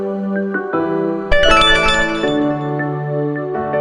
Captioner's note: phone ringing